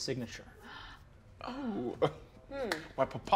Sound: gasps

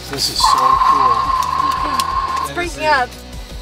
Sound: static crackles

